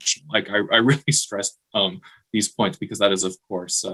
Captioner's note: chuckling